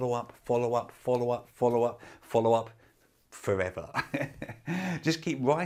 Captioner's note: laughs